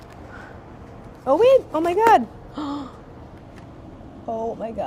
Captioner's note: gasps